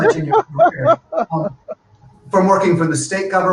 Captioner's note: laughing